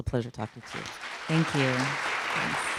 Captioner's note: audience clapping